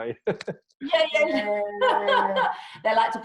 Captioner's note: laughs